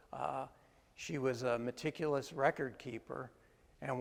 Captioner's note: none